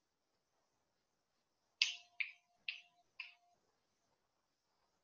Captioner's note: fingers snapping